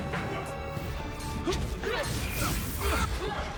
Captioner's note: both grunting